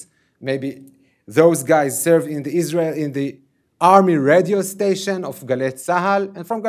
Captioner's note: ? radio ?